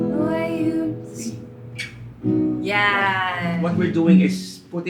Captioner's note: vocalizes